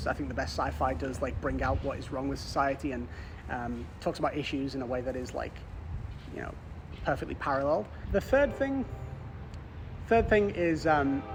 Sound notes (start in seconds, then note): 8.8 train horn